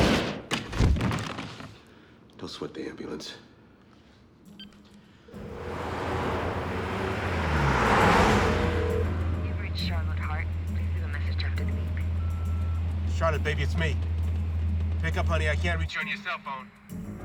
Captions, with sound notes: ( body thuds ) DON'T SWEAT THE AMBULANCE. You've reached Charlotte Hart, please leave a message after the beep. ( beeps ) CHARLOTTE, BABY, IT'S ME. PICK UP, HONEY. I CAN'T REACH YOU ON YOUR CELL PHONE.